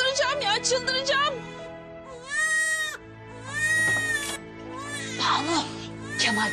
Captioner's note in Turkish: Bebek ağlaması